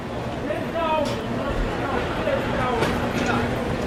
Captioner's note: vendor calling